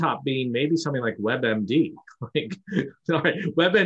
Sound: chuckles

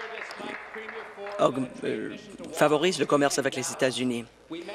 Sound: applause

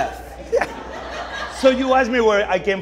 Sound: audience laughing

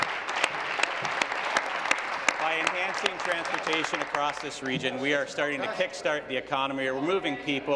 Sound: applause

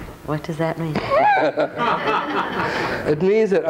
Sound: audience laughing; all laughing

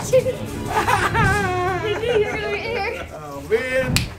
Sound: laughs

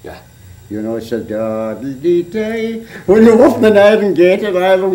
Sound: humming tune

